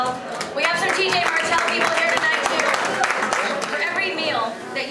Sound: applause

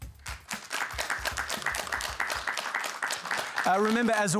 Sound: applause

